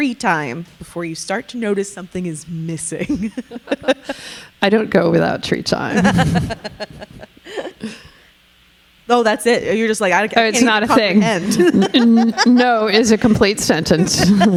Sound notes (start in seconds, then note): 3.0 laughing; 5.9 laughing; 10.6 laughing